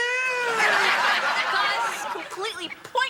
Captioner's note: audience laughing